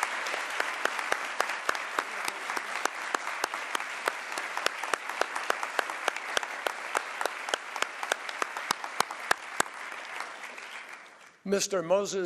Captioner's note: applause